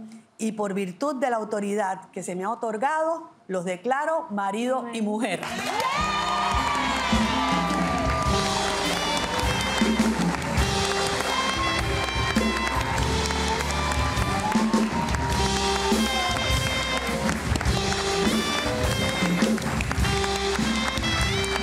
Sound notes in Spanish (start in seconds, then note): 6.5 Ovación; 14.0 Aplausos